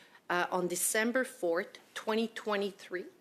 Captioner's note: speaking French